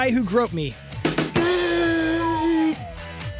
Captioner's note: buzzing